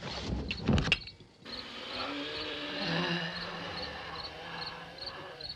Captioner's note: groaning - wheezing